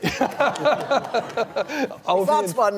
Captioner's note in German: Lachen